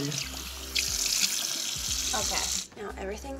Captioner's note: tap water running